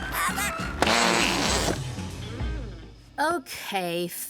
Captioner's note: deflating